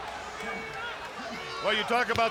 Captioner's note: crowd chattering